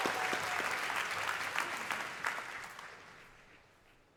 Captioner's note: cheers and applause